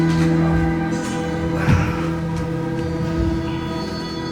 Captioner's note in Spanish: Exhala